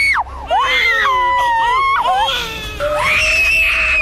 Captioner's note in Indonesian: Crying